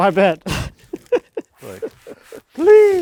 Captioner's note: speaker laughing